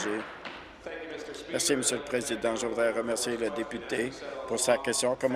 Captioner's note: applause